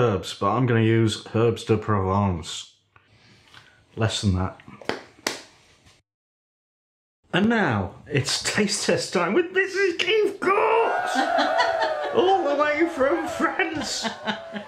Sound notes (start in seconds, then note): 10.4 cheerin'